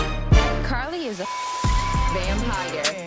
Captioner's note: beep